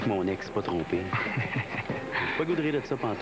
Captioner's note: Rire